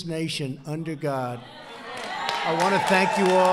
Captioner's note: applause